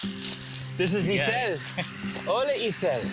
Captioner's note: chuckles